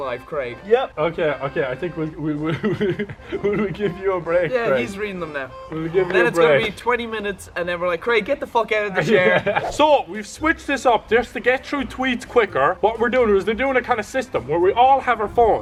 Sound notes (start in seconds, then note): 2.6 laugh